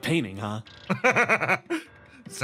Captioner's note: laugh